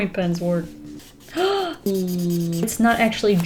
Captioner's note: gasps